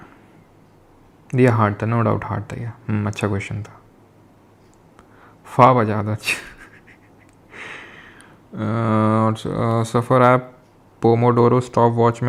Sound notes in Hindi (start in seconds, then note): 6.2 हंसी